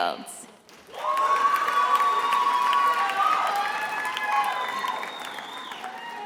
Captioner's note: attendees applauding and cheering